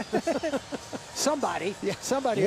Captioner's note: laughter